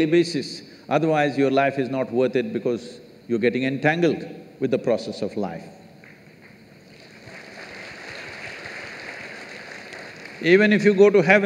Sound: applause

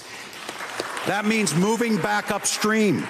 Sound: applause

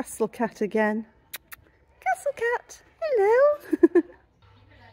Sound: kissing sound; laughing

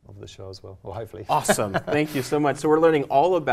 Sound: laugh

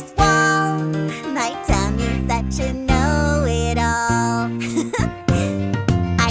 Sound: chuckles

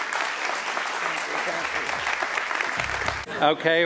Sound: applause

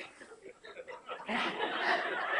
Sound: laughter

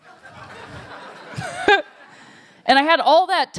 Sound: laughter

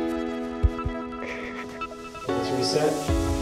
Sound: sniffling

